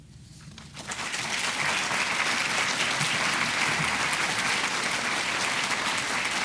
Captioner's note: audience clapping